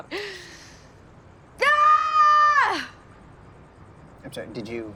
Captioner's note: longer yell